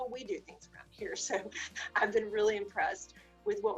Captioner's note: laughs